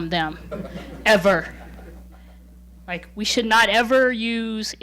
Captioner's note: laughing